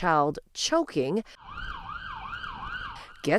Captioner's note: siren wailing